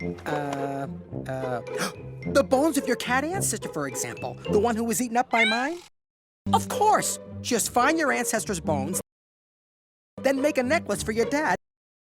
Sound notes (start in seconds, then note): 1.7 inhales